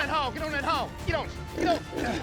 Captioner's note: hog snoring